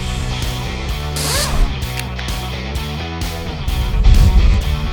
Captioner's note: wrench whirring